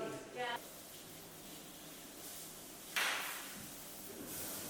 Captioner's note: pans sizzling